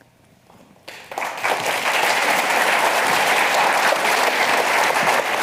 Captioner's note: audience applauding